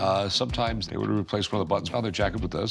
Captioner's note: none